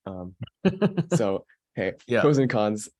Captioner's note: laughing